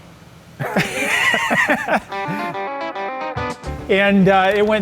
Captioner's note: both laughing